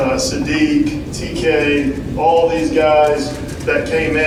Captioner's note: none